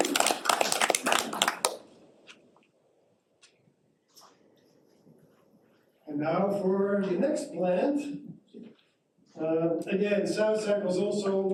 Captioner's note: applause